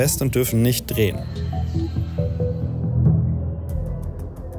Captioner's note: pensive sounds; tense music